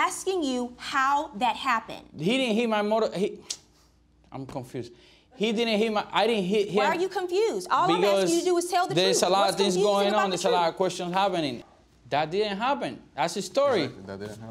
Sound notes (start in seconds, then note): 2.9 stammering